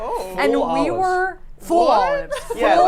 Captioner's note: laughs